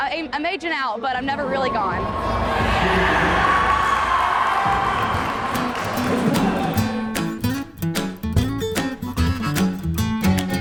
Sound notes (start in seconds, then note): 1.8 audience yelling; 5.0 upbeat country guitar music